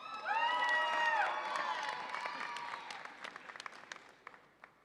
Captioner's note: audience applauds and cheers